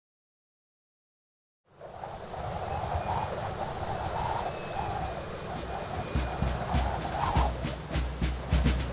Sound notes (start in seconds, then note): 1.7 wind whistling; 1.9 drums beating